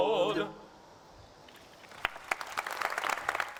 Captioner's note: applause